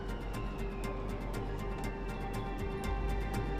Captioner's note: none